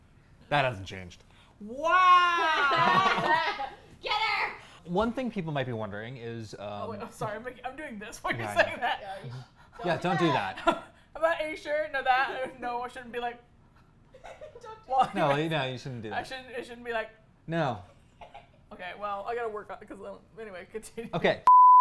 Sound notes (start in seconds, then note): 2.2 laughs; 7.1 laughing